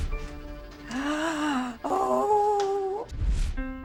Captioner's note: gasps